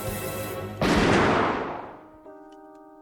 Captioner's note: gun blasting; soft music